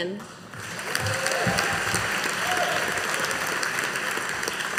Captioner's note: audience applauding